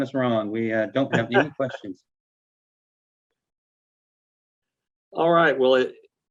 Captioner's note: laughing